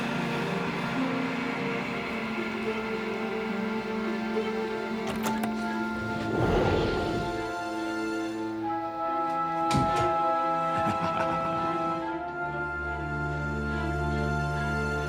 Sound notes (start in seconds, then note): 4.9 door unlocks; 10.6 laughs